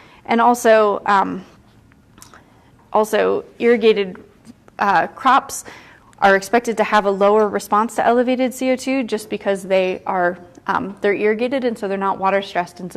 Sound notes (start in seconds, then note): none